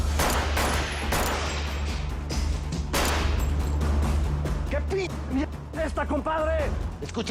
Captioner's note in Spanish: Disparos